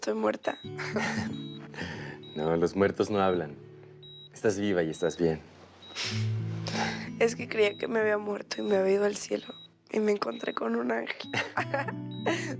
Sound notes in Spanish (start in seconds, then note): 0.7 Risas